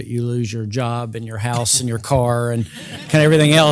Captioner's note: laugh